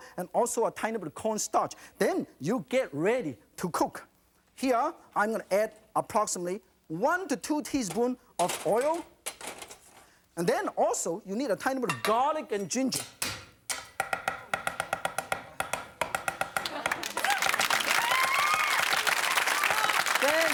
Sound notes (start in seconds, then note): 13.7 chopping in a musical rhythm; 16.6 audience cheering